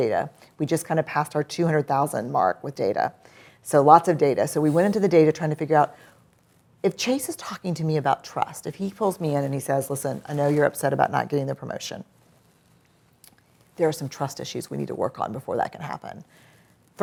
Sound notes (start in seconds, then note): none